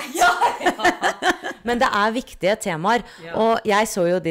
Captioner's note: laughter